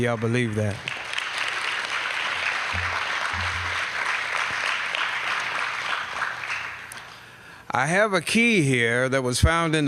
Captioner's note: applause